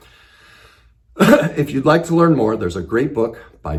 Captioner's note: coughs